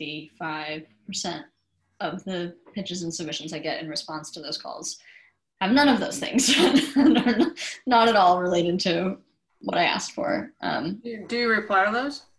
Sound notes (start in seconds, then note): 6.4 chuckles